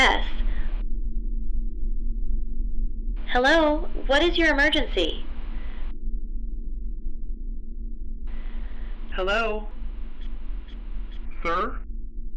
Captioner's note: distorted, low